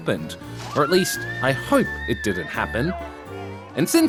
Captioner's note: swimmer screams